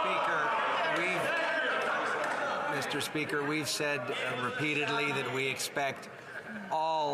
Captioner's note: some Applause